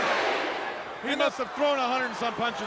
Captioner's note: crowd cheering